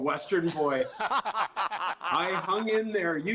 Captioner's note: laughter